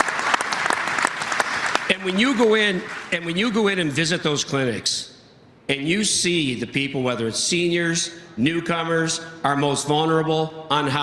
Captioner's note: applause